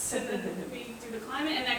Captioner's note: chuckling